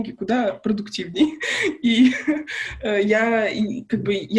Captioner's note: laughs